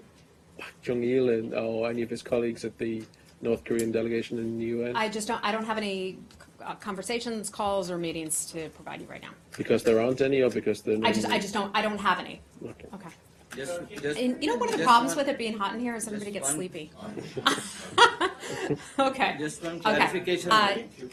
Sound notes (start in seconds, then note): 17.1 laughter